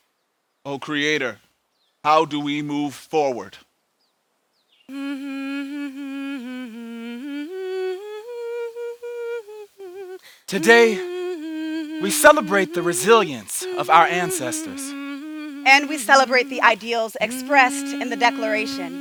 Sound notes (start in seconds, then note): 4.2 humming